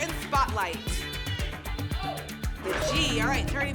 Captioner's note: audience shouting letters